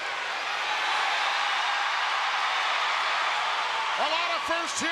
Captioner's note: crowd cheering